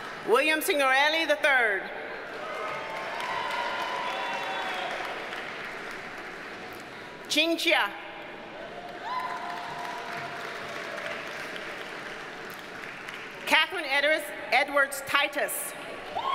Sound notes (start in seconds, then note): 2.3 audience cheers and applauds; 8.8 audience applauds; 16.1 audience cheers and applauds